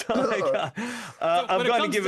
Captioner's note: laughing